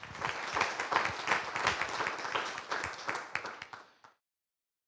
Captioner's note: applause